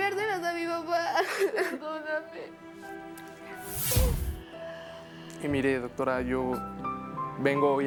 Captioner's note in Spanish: Sollozos